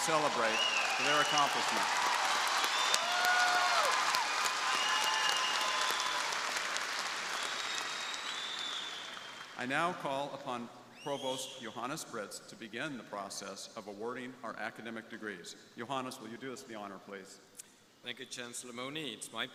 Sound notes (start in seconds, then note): 1.8 crowd applauding; 1.8 crowd cheering